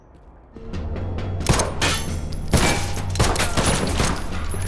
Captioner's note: gunshot